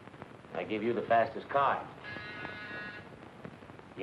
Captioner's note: buzzer blaring